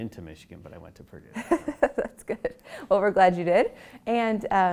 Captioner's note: laugh